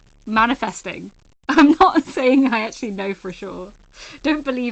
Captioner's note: laughing